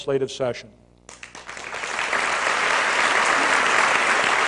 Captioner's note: applause